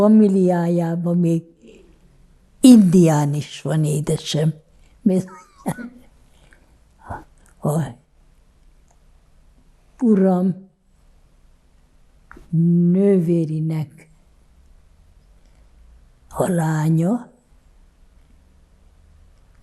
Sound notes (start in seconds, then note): 5.2 laughing